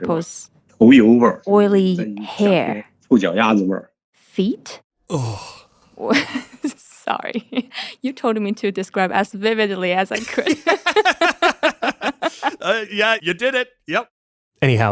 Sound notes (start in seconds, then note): 0.0 speaking Mandarin Chinese; 6.0 laugh; 10.2 laugh